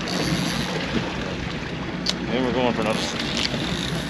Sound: reel spinning

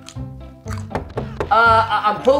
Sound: knocking

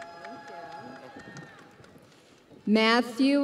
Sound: crowd cheering

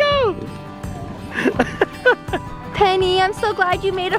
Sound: laughs

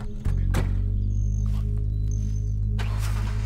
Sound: car door slams; whisper; truck starts

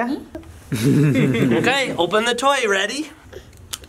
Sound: laughter

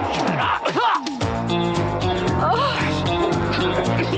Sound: man coughs

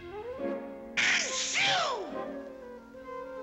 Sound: sneezes

